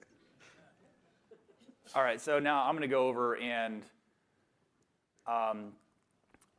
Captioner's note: laughter